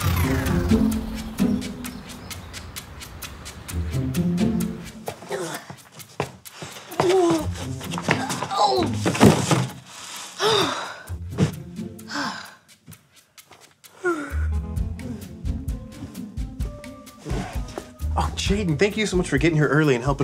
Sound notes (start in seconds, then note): 0.0 electronic whoosh; 0.0 gentle music; 5.4 groans; 9.0 wooden thump; 10.4 sighs; 14.0 yawning